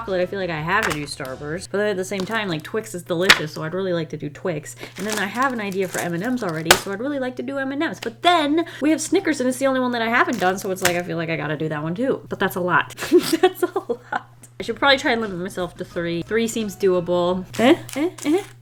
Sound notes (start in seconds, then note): 13.0 laughs